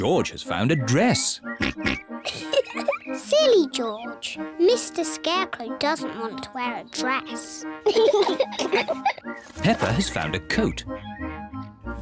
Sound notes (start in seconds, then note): 1.6 oinks; 2.2 giggles